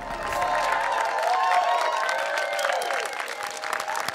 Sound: audience applauding

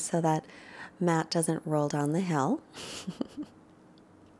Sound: laughs

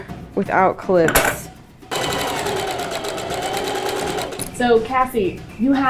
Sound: sewing machine running

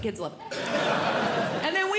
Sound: audience Laughing

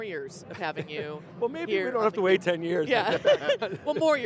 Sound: laughs

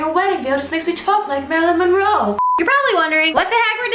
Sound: beep

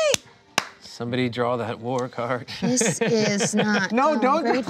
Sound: laughs

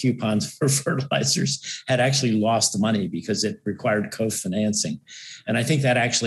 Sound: laugh

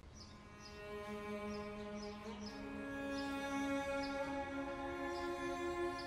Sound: birds chirping; somber music

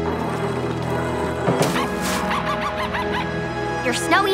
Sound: growling; barking

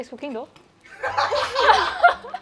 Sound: laughs

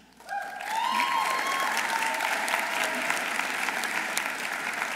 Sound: audience applauding

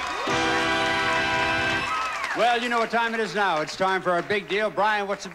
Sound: audience applauding

